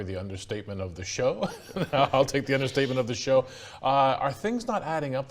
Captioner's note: laughs